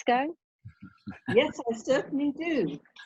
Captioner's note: Tom chuckling